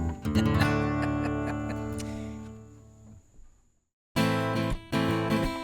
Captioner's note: laughter; acoustic guitar